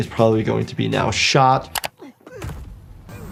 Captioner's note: mouse clicking; victim grunting